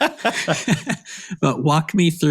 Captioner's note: laughing